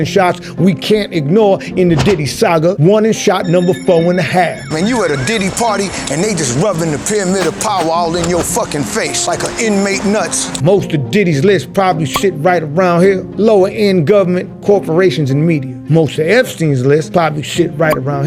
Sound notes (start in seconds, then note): 3.5 siren blares